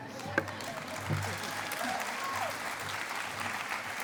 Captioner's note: cheering and applause